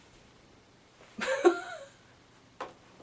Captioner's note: laughs awkwardly!